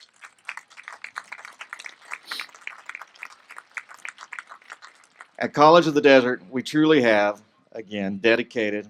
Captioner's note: applause